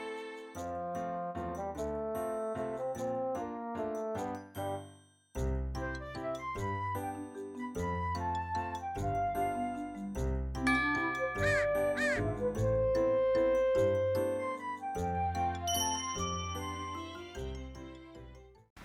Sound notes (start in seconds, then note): 14.4 crying